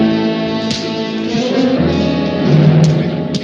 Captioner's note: punch thuds